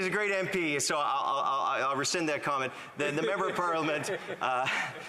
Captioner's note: laughter